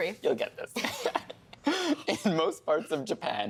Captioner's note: laughing